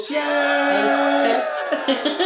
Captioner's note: cheering; laughs